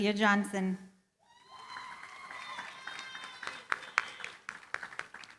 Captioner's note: cheering, applause